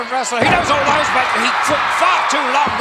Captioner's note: audience cheering